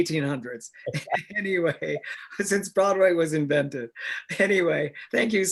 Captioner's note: laughs